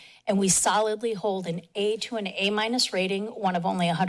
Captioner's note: none